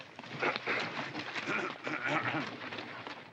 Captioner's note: Mr. Douglas clears his throat